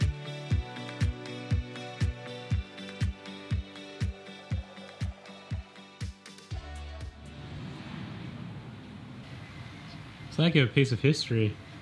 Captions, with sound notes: (music fades) (street noise) It’s like a piece of history.